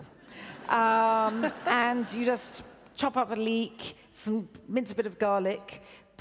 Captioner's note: laughs